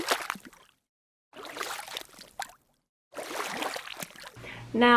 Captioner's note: splashing sounds